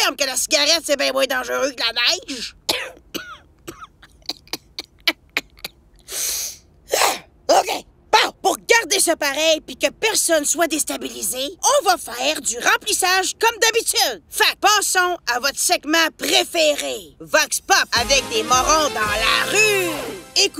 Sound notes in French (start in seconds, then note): 3.6 Tousse